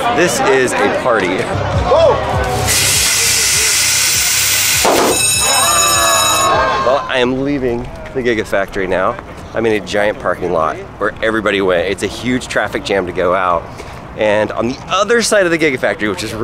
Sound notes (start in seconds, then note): 2.5 air quivering; 4.1 crowd cheering; 4.6 bell rings